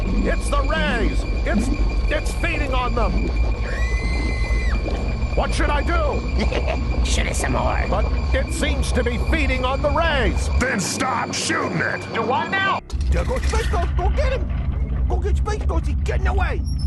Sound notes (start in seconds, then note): 3.6 high pitched womanly scream